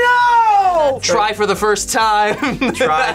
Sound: laughs

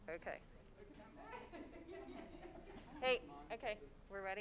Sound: laughing

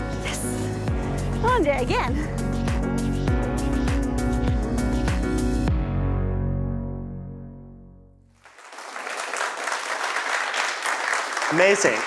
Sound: applause

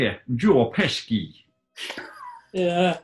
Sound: odd, geordie accent?; sniggering

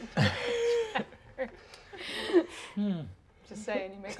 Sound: players laughing

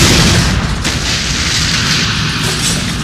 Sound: gunshot; explosion

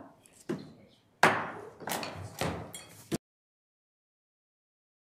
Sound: hammer bangs

